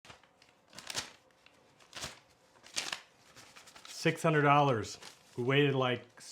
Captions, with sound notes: (money rustling) - $600. We waited like,